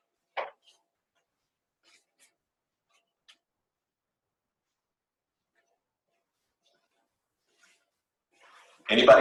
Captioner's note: silence